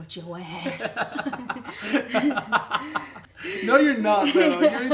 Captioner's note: laughing